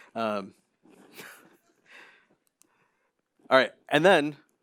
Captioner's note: laughs